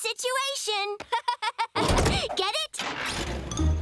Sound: laughing

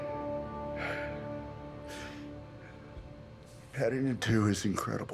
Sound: Nick Cage sighing

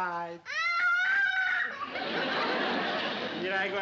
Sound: screaming

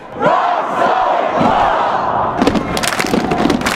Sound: cheering

